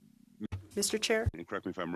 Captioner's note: speaking French